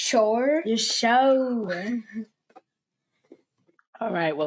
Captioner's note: laughing